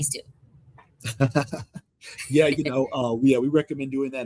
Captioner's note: laughs